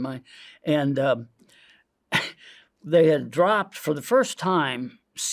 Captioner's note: clears throat